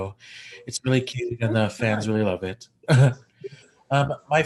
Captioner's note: chuckles